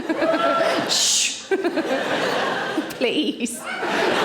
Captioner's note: laughs; audience laughing